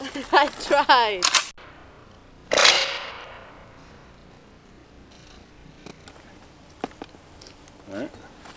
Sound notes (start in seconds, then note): 3.1 confused Silence